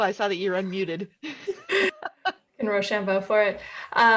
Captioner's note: laughs